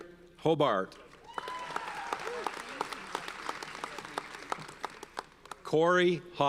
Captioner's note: audience cheers and applauds